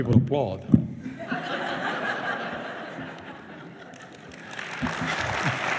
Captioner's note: laughter; applause